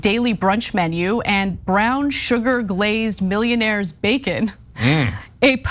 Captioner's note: laugh